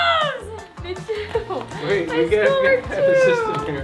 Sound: speaking faintly

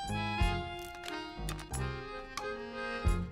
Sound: crunching

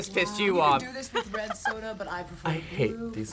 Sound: React laughs

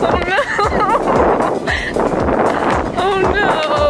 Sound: laughing

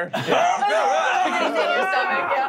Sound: moaning

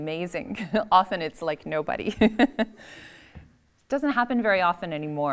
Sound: laughs

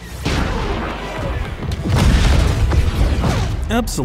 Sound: explosions

